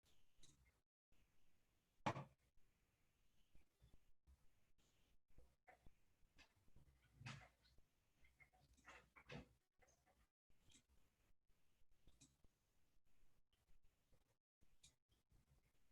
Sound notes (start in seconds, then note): 0.2 silence